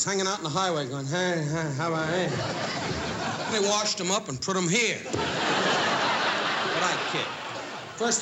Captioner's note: mumbles